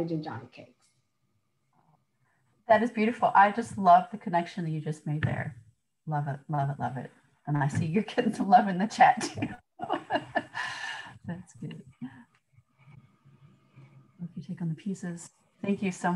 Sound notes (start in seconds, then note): 13.1 laughter